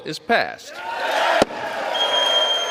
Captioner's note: cheering